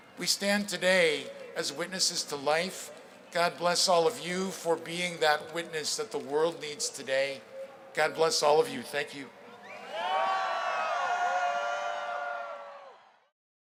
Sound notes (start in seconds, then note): 9.6 crowd cheering